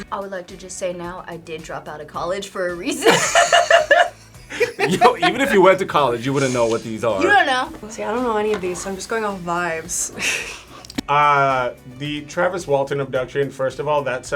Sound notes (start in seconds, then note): 2.9 both laugh; 11.2 laughs